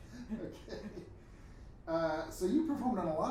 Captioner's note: laughing